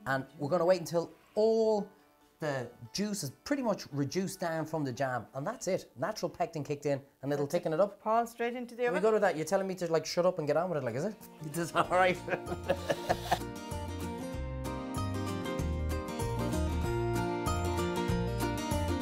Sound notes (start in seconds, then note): 11.7 laughing; 14.4 upbeat, happy music